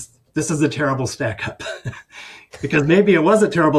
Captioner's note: chuckles